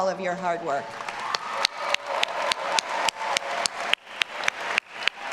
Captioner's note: all applauding and cheering